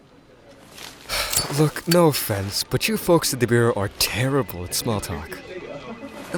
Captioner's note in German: seufz